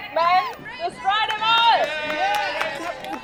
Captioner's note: crowd